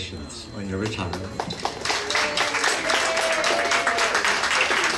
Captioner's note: applause